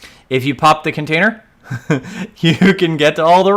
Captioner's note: laughs